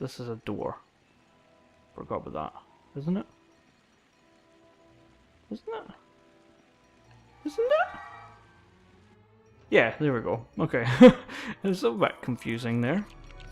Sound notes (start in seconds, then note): 10.8 laughs